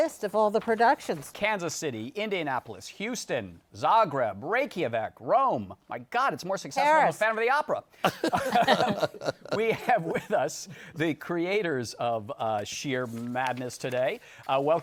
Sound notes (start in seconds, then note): 8.0 laughter